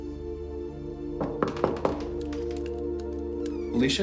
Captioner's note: knocking on door